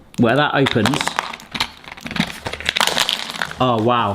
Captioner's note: plastic crinkling